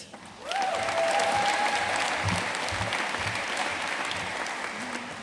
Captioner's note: audience cheering and applauding